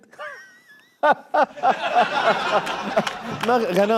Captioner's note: mockingly laughing